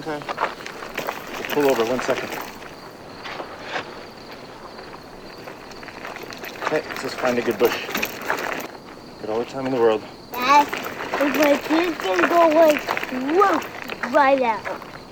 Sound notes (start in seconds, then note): 3.8 crickets chirping; 3.8 gravel crunching